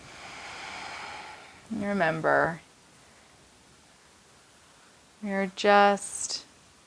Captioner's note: exhaling